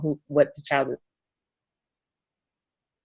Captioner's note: audio drops out